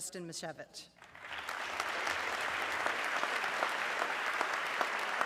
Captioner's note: audience clapping